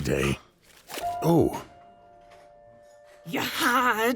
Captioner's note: cards hitting table